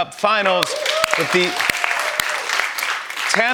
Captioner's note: cheers and applause